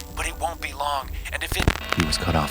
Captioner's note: beeping; static crackling